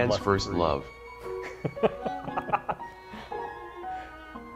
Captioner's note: laughter